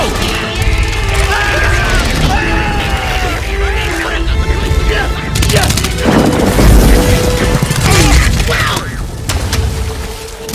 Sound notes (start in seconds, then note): 0.3 hopper yelling; 5.5 thunder clapping